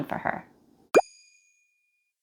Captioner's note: boop sound